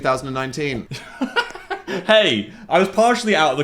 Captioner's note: laughs